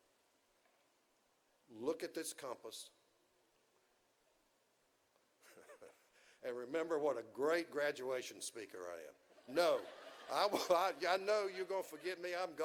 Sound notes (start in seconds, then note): 5.4 chuckles